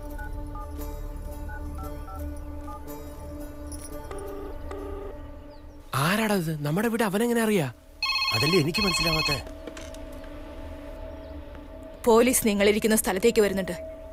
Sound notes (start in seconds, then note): 4.6 Line ringing; 8.0 Phone rings